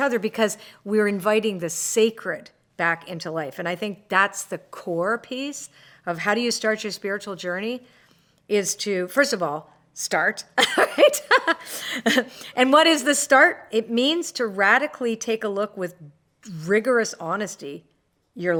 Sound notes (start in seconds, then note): 10.6 laughs